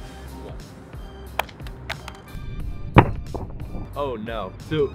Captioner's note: phone clatters